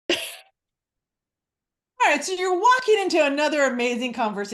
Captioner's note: coughs